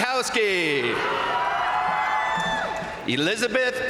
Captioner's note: crowd cheering; crowd applauding